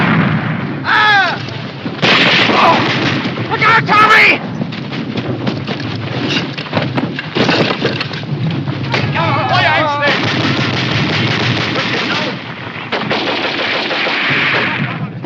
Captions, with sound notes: Aah! Look out, Tommy! [SOLDIER SHOUTING IN GERMAN]